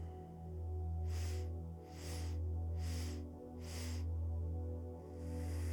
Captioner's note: inhales four sharp breaths through the nose; exhales deeply through the nose